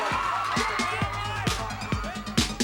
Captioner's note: crowd cheering